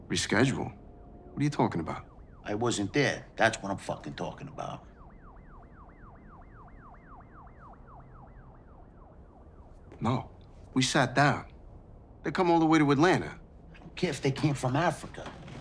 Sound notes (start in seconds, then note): 5.0 siren wailing in background